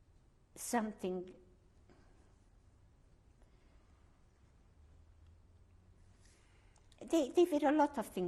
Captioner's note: pauses for 6 seconds